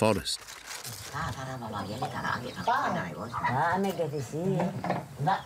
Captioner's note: Indonesian spoken audio